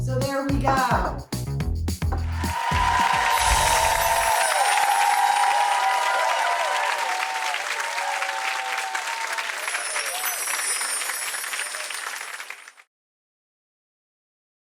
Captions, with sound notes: So there we go! (audience cheering) (chimes tinkling)